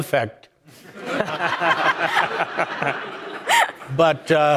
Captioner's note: audience laughing